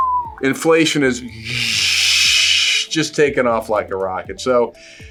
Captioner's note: whistles